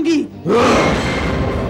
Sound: grunts

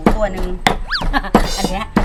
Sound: laughing

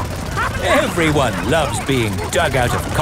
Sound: all laughing

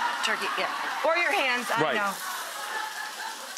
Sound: audience laughing

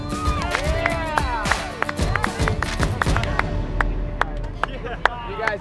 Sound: applause

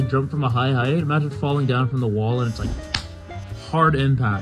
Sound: clap

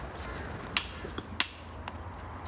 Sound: chiselling

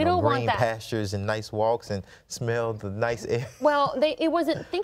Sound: chuckles

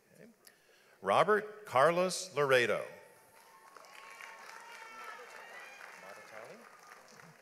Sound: audience applauds

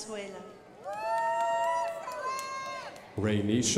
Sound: crowd applauding

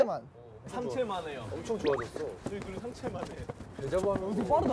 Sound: running

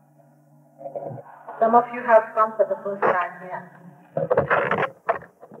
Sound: tape interrupted

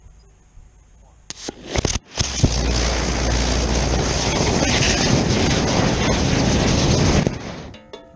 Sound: hissing as rocket motor fails to ignite then burns on the pad

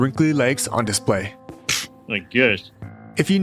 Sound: scoff

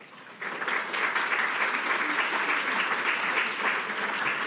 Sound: audience applauding

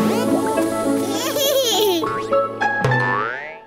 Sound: giggles

